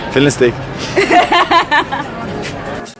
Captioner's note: giggles